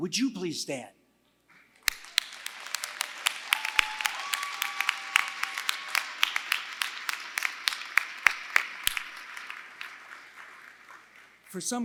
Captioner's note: applause